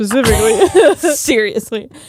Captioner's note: both laughing